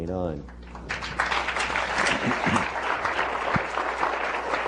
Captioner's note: applause